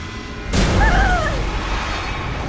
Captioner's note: screams